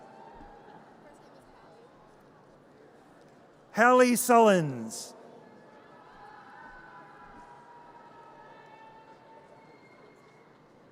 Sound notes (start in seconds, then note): 0.2 audience cheers; 5.5 audience cheers